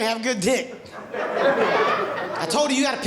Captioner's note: audience laughing